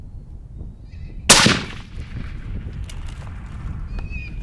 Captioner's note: gun roars